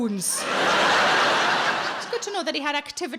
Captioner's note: audience laughing